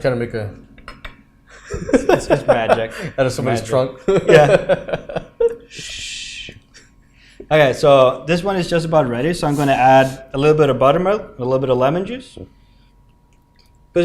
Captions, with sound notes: Kind of make a-- [LAUGHS] It's magic. Out of somebody's trunk. Yeah. [LAUGHS] [SHUSHES] OK. So this one is just about ready. So I'm going to add a little bit of buttermilk and a little bit of lemon juice.